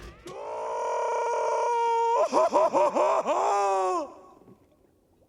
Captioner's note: screaming, crying